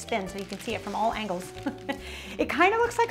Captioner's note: chuckles